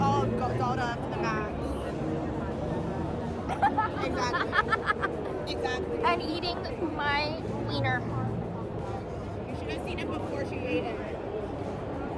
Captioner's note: laughs